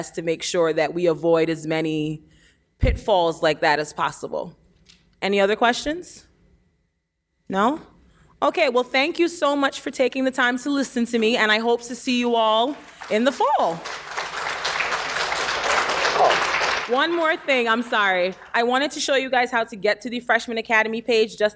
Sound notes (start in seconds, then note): 12.3 applauding